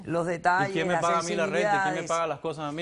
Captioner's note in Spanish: Hablan al unísono